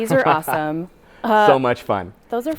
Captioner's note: laughing